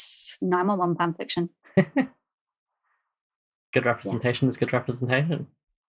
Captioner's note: laughs